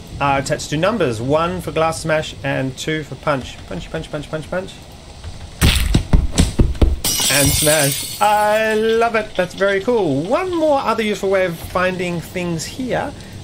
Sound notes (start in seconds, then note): 5.6 punching noises; 7.0 glass smash